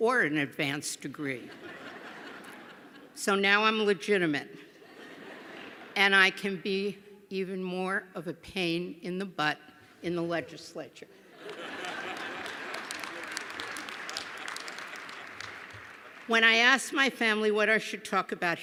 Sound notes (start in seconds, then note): 1.4 laughter; 4.7 laughter; 11.3 laughter; 11.5 applause